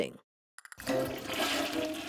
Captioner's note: flushing